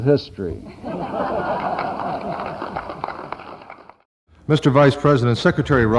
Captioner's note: audience laughs